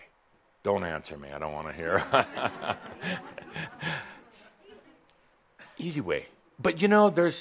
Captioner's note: chuckles